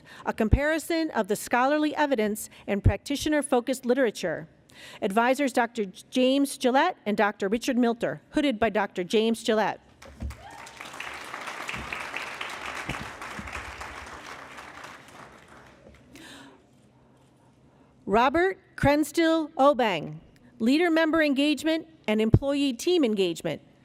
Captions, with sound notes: a Comparison of the Scholarly Evidence and Practitioner-Focused Literature," advisors Dr. James Gelatt and Dr. Richard Milter. Hooded by dr. James Gelatt. [ Cheering and Applause ] Robert Crenstil Obeng, "Leader/Member Engagement and Employee/Team Engagement,